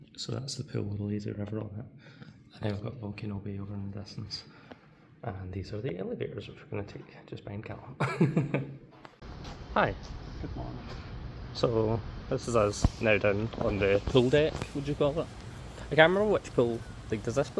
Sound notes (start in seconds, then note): 10.2 laughs